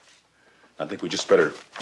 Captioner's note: paper slams on table